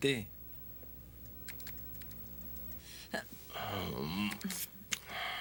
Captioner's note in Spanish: cliques no teclado